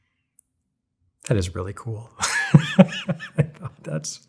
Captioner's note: laughs